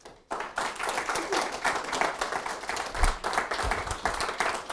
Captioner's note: applause